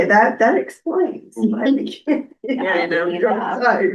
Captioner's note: laughter